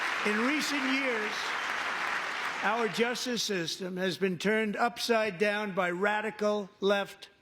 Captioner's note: cheering; applause